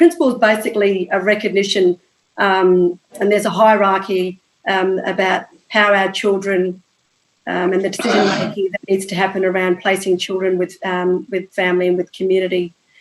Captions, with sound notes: And the Principle is basically a recognition, and there's a hierarchy about how our children [audio distorted] and what needs to happen around placing children with family and the community.